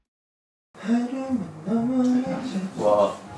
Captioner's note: today's guest waiting while humming